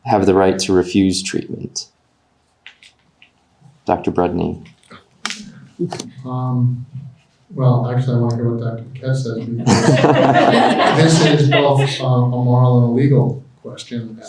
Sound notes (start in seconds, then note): 9.4 everyone laughing